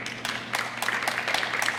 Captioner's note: applause